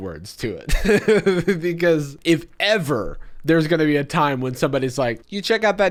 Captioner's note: laughs